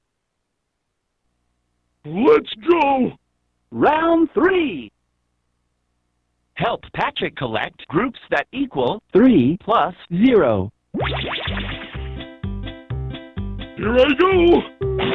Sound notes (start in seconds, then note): none